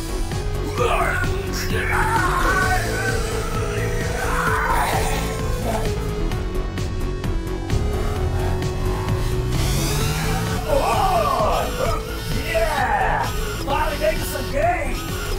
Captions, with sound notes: (Max grunting) (buzzing ascending) Whoa! Yeah! Finally making some gains!